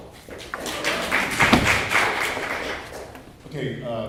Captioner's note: clapping